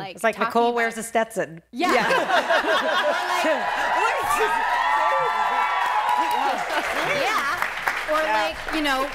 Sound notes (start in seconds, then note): 2.7 cheering